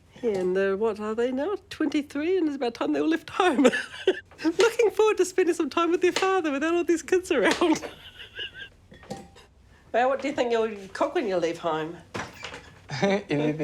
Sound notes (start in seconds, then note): 3.2 laughs